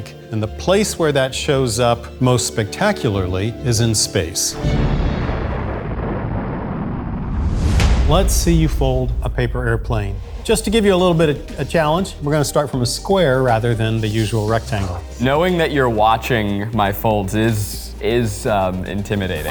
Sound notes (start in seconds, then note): 4.5 rocket roars